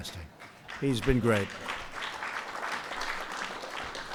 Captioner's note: applause